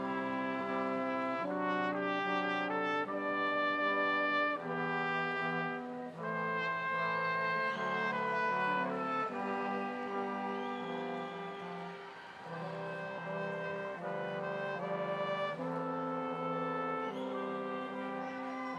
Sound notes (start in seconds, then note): 0.3 ceremonious music continues; 7.5 audience cheering